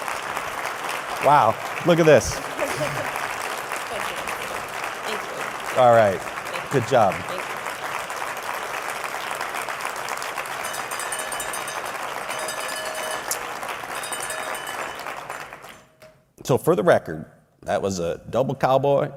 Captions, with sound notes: and we were able to charge forward. I would like to call Monique up to the stage and would like to present her (cow bell ringing many times.). (Applause.) » Wow! Look at this! All right! Good job!